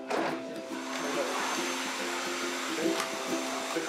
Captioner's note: vacuum cleaner hums